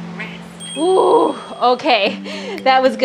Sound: timer rings

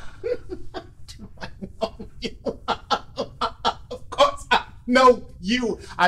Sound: laughing

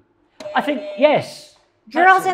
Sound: buzzer rings

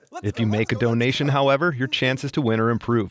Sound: voiceover

